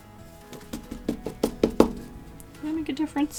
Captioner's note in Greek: Χτύπημα